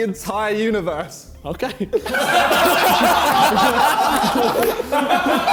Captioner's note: men laughing